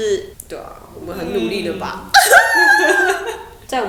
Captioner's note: sobbing